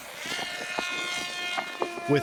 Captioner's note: drone buzzing